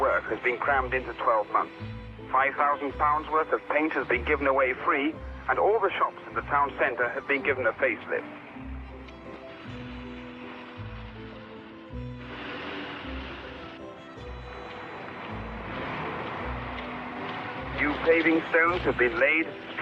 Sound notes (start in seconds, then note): 9.6 soft thoughtful music; 9.6 traffic humming